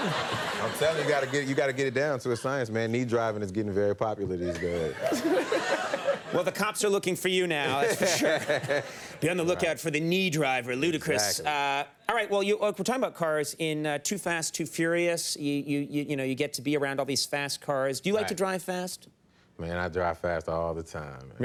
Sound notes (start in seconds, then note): 4.4 laughs; 7.7 laughs